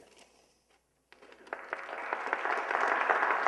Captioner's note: applause